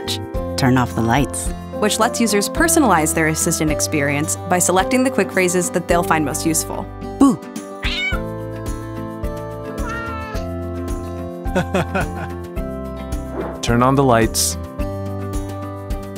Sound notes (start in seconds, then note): 7.6 cat meows; 9.7 cat coos; 11.6 laughs